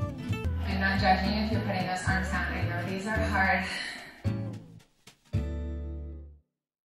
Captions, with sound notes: (on TV) I’m not judging if you’re putting those arms down I know these are hard